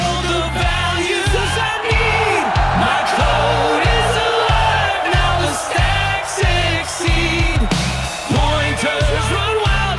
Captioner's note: applause